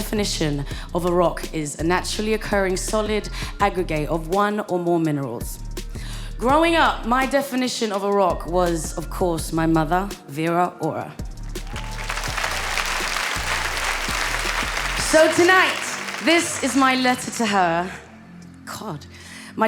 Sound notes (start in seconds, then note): 11.6 audience applauding; 11.6 audience cheering